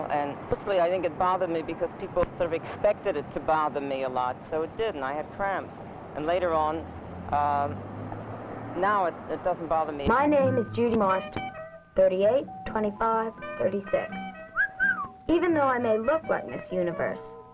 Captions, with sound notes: And firstly I think it bothered me because people sort of expected it to bother me a lot. So it did and I had cramps. And later on, now it doesn't bother me. My name is Judy Marston. 38 - 25 - 36 *wolf whistle* Even though I may look like Miss Universe,